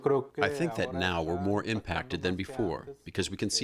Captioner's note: through translator